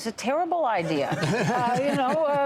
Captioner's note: laughter